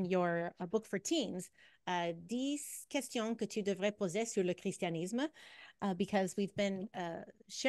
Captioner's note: French